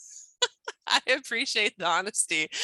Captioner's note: laughs